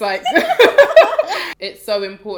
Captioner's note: laughter